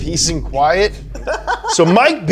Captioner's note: laughing